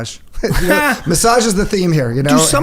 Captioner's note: Gary laughs